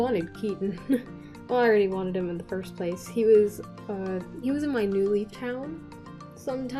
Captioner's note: chuckle